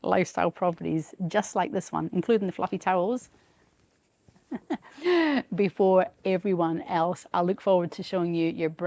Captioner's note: chuckles